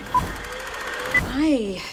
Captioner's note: film projector whirring